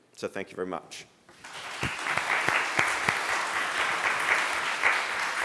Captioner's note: applause